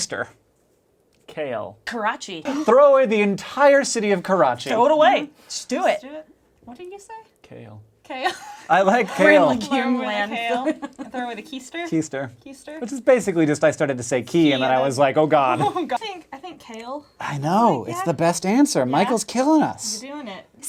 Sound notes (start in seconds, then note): 8.2 laughing